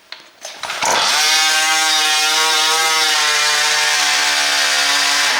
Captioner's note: tires screeching